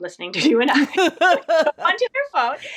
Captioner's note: laughing; laughs